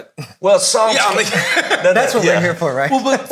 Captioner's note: all laughing